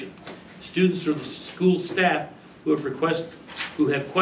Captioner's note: reading from paper; stammers